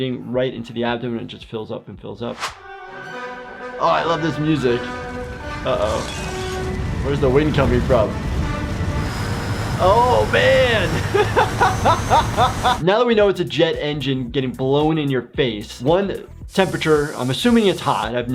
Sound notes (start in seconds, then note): 2.4 dramatic music; 10.8 laughs